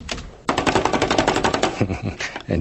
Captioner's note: rattling; laughing softly